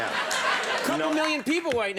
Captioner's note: audience laughing